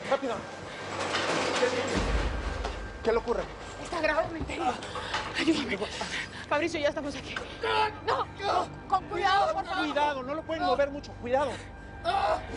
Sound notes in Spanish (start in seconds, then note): 7.2 Quejidos